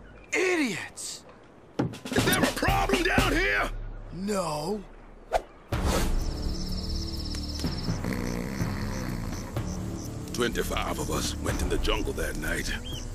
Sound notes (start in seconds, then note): 8.0 Owen Snoring